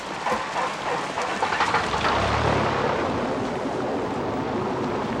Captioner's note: engine whirring